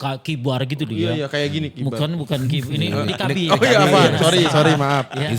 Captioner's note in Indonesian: tertawa